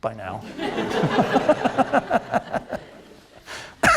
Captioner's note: laughter